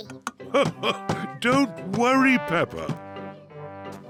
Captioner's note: laughs